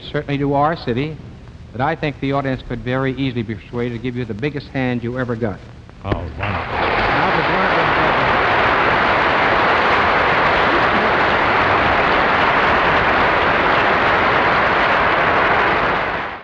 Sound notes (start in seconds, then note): 9.1 audience applauding enthusiastically